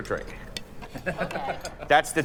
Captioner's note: friend laughs